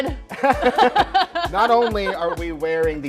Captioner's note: both laughing